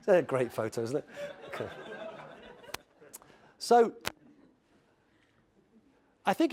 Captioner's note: laugh